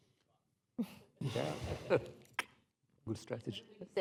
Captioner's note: laughter